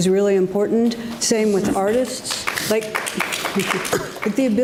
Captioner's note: audience laughs